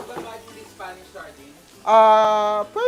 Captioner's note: sizzles